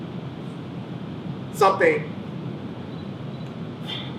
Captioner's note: sighs